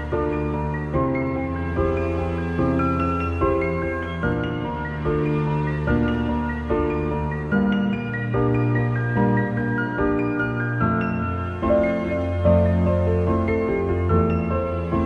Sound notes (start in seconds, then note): none